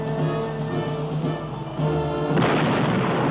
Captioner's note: blast